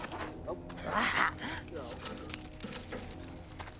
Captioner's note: laughing